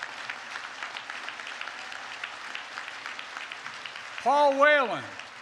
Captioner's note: applause